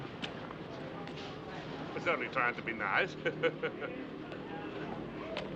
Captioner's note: chuckling